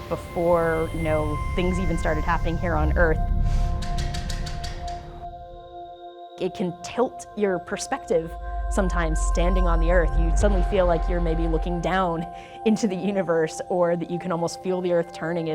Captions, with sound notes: before things even started happening here on Earth. (gears clicking) It can tilt your perspective sometimes, standing on the earth you suddenly feel like you're maybe looking down into the universe, or that you can almost feel the earth turning,